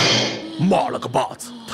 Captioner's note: grunt